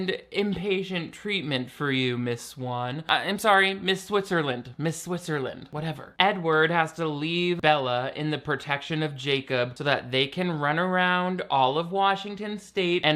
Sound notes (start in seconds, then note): none